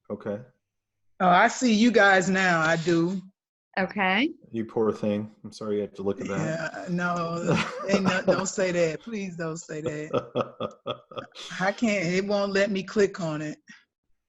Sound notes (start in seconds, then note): 6.1 laughs; 9.8 laughs